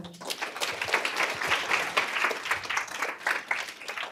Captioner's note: applause